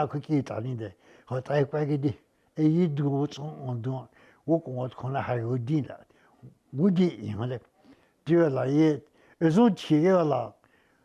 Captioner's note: speaking Indigenous Language